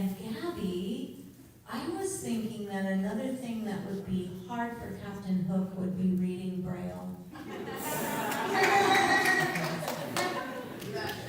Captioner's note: laughter